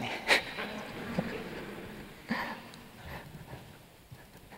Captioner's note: laughter